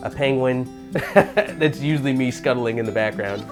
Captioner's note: laughing